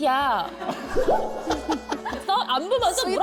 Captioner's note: sound effect of holding back laughter